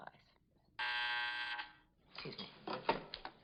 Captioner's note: intercom buzzing